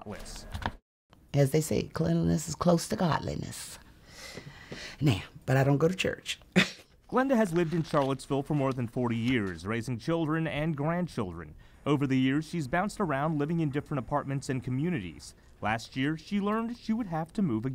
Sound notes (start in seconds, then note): 6.6 chuckles